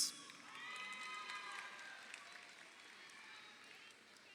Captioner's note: crowd cheering